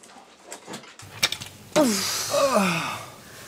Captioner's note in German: Beide seufzen